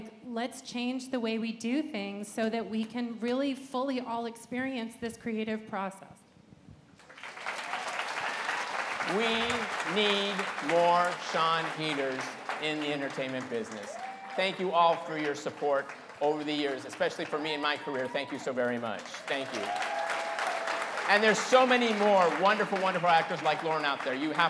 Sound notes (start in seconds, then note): 7.0 applause